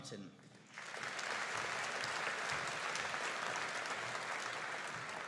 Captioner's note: audience applauding